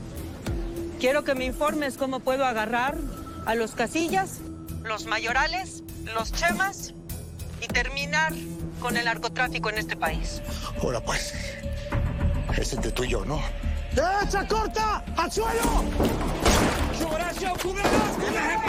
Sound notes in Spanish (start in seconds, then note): 16.1 Disparos